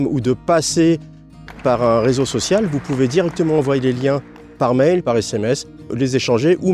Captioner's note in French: applaudissements